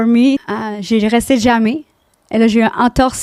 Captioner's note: in french; french